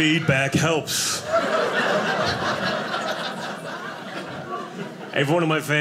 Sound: audience laughing

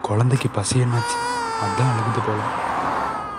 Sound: baby cries

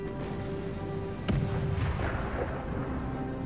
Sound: suspenseful music; gun bangs; explosions boom; guns bang

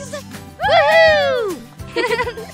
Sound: laugh

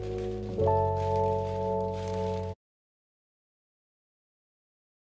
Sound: newspaper crackling

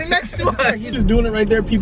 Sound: laughs

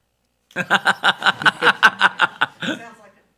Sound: board members laughing

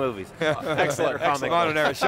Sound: laughing

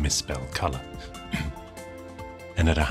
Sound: clears throat

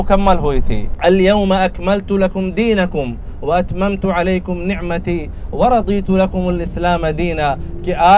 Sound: Arabic

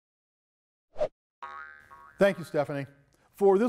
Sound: logo slashing; globe pinging

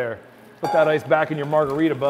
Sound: metal clangs

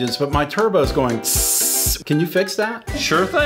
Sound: hissing

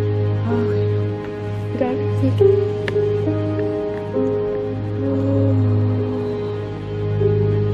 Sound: deep breaths/moaning

